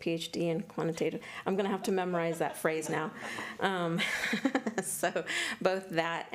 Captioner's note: chuckles